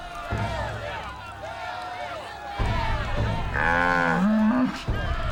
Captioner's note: cheering